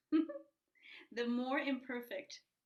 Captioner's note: giggles